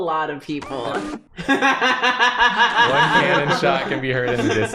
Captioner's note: laughs